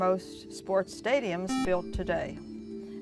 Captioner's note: buzzer